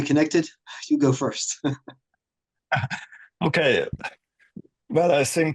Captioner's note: laughter